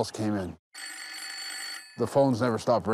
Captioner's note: phone rings